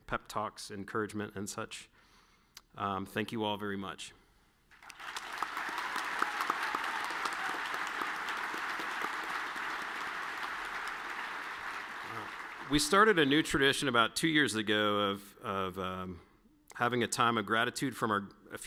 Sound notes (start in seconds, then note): 4.9 all clapping